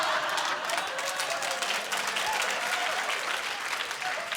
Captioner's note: laughter; applause